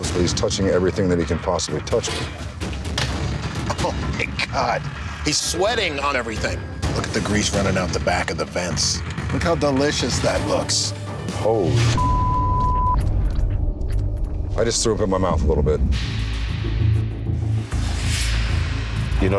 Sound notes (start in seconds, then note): 11.9 beep; 16.7 dramatic instrumental music